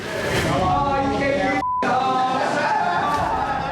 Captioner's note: inmates clamoring, laughing